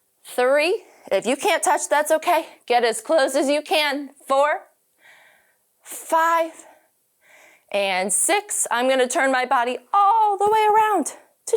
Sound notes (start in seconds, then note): none